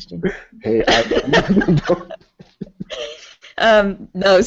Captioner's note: laughter